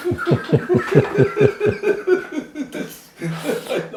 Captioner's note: laughter